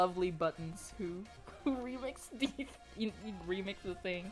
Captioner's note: can't stop snickering